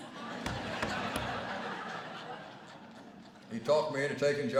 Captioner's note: laughter